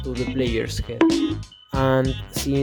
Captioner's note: bonk